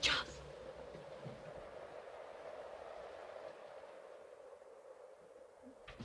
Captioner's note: wind howling